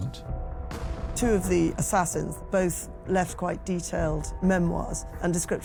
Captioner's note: Welsh